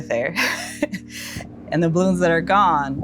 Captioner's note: chuckles